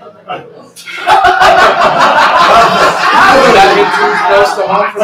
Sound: laughter

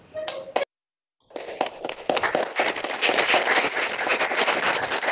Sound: audience applauding

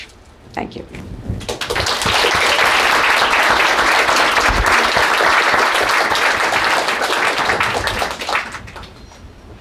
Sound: applause

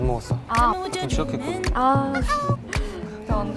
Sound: chatting

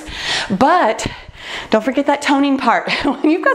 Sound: laughs

